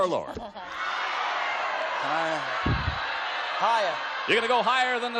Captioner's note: audience yells